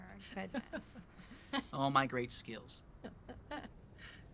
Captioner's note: laughs